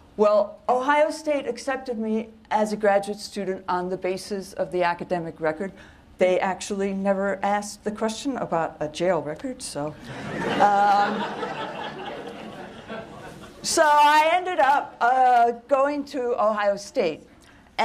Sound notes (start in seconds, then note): 10.0 laughter